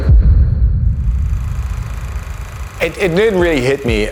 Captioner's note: dramatic noise; film reel noise